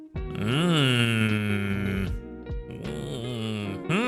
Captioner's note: moaning